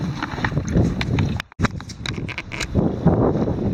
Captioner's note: wind blowing